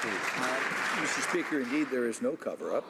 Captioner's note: some Applause